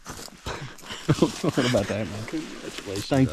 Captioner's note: both laughing